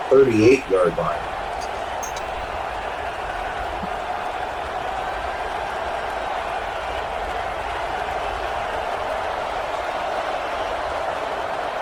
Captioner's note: cheering